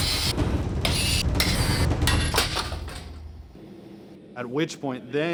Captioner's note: metal workshop sounds